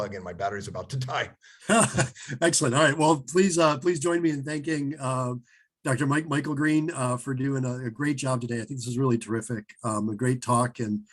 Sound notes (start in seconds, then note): 1.6 chuckles